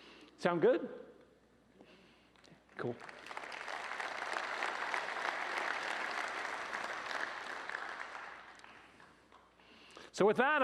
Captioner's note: applause